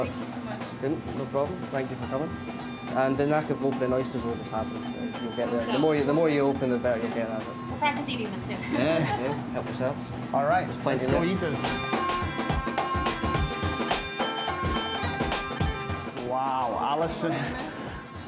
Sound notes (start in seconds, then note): 8.6 all laughing; 10.8 upbeat Scottish bagpipe music